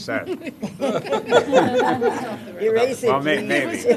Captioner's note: laughter